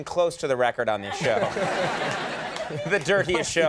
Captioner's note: audience laughs